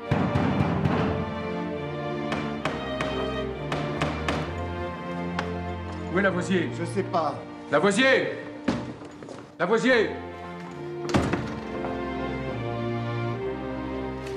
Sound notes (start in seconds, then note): 0.0 <i> pounding at door</i>; 3.6 <i> knocking at door</i>